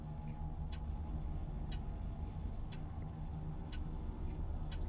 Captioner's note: clock ticking